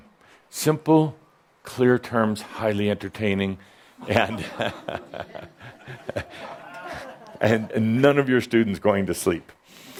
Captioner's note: chuckles